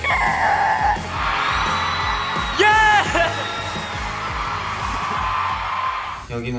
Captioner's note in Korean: 함성